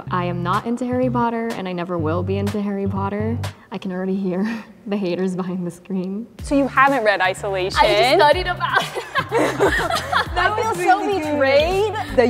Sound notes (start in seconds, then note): 8.6 laughs